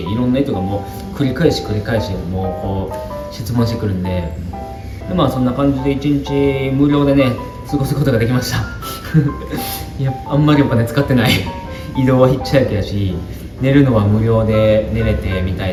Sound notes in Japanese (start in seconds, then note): 9.4 鼻息